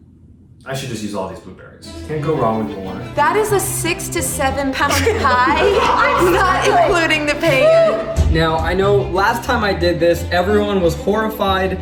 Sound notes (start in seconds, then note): 4.8 laughing